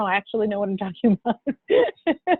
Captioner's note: laughs